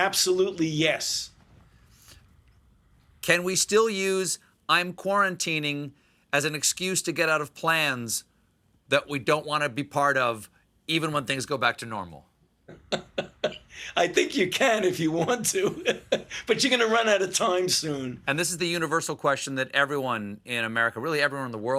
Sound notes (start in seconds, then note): 14.7 laughs